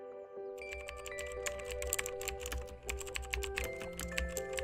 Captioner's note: keyboard keys clicking